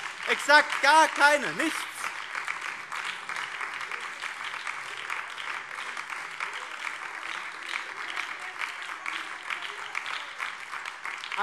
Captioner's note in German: Beifall BÜNDNIS 90/DIE GRÜNEN und Freie Demokraten